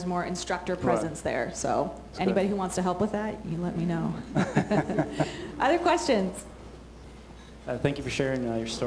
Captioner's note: laughter